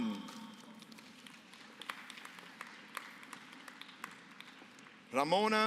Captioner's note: applause